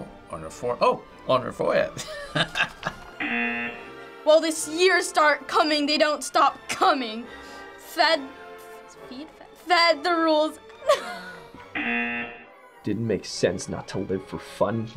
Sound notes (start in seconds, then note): 2.0 laughs; 3.2 buzzer; 10.8 laughs; 11.7 buzzer